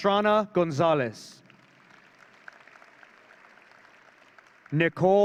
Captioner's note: audience cheering